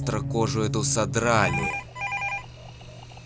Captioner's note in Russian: звонок телефона